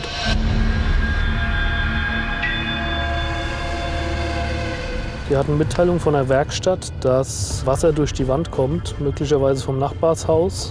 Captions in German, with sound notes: (Düstere Klänge) (Abfallende Töne) Sie hatten Mitteilung von der Werkstatt, dass Wasser durch die Wand kommt. Vielleicht vom Nachbarhaus.